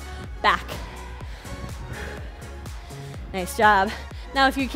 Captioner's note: upbeat music; breathes heavily